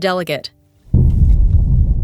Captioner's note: boom